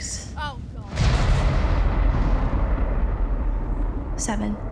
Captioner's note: thunder crashes